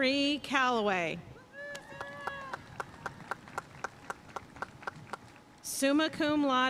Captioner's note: audience cheering and applauding